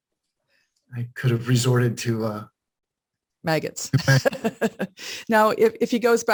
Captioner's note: laughs